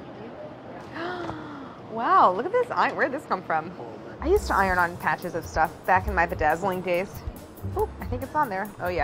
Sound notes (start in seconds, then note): 0.9 gasping